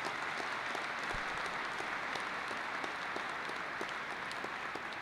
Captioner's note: applause